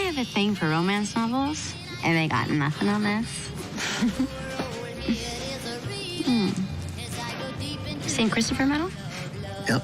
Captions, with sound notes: I have a thing for romance novels, and they got nothing on this. (giggles) Oh. St. Christopher medal?